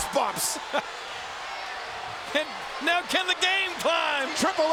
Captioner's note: laugh